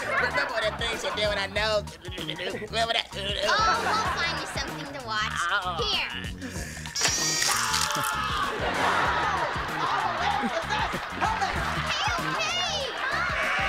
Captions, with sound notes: Remember that thing she did with her nose, remember that? Oh, we'll find you something to watch, here. [screaming] Okay, okay!